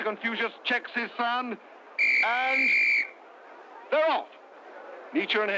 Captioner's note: blows whistle